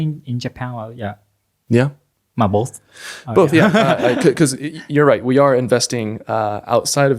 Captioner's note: laughs